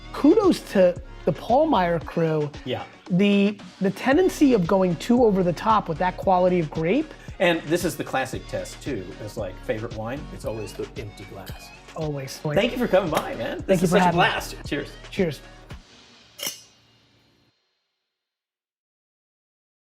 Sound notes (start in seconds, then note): 16.4 clinking